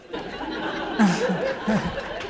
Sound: laughter; applause

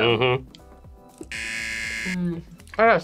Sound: buzzer

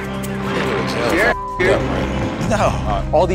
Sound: beep

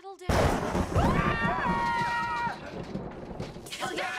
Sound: everyone, mainly Abed, screaming

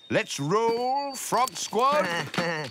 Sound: giggles

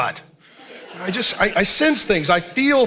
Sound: congregation laughing

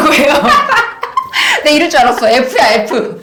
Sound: laugh

